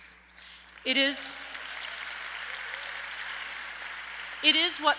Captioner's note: audience applauds